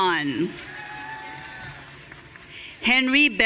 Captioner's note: audience cheering